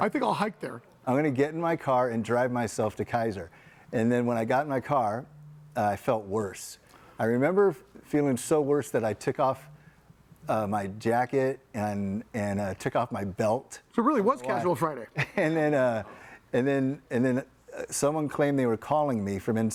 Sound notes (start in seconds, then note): 15.1 chuckles